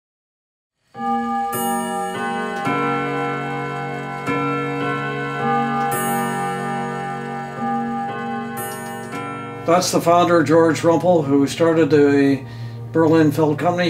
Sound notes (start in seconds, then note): 0.9 grandfather clock chiming